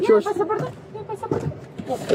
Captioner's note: speak in Foreign language